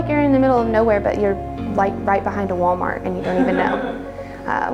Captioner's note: laughs